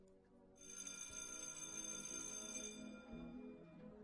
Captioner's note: school bell ringing; relaxed music